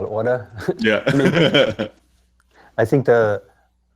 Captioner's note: laughter